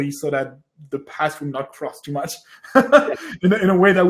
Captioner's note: laughs